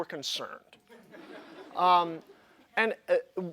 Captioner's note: laughter